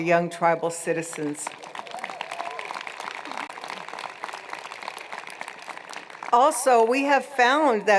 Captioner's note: applause